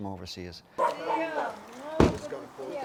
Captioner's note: dog barking